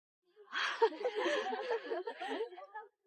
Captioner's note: laughter